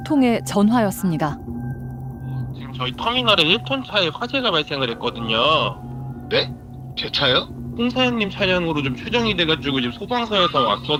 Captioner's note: voiceover